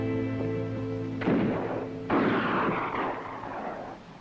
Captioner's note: distant guns fire